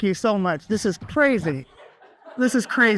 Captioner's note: audience laughs